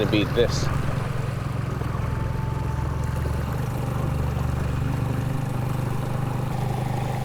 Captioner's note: engine chugging; water sloshing